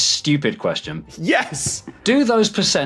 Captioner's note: laughs